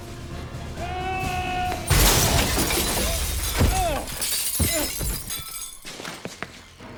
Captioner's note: Ryan shouts; glass shatters